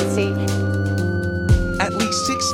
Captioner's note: sirens blaring